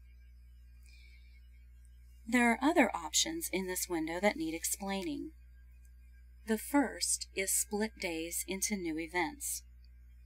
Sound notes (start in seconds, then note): 1.0 voiceover - female speaker